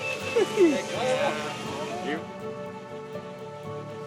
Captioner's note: man laughs